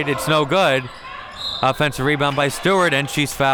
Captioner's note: whistle blows